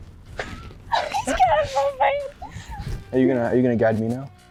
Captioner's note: laughs